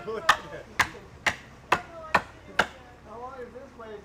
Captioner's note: hammering